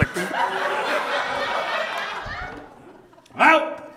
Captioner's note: audience laughs